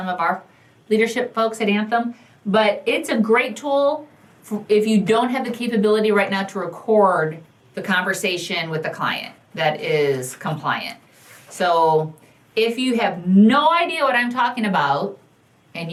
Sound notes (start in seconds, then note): none